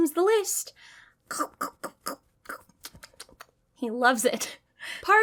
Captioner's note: making munching noises